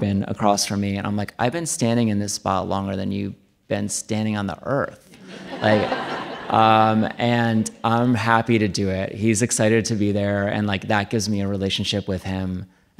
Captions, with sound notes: across from me and I'm like I've been standing in this spot longer than you've been standing on the Earth. (audience laughing) And I'm happy to do it. He's excited to be there, and like that gives me a relationship with him.